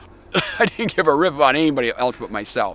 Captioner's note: chuckling